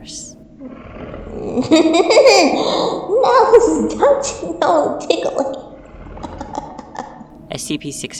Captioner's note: bellowing laughter; continues laughing